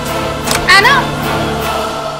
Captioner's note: Door opens